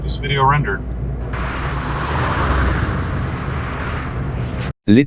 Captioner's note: cars whoosh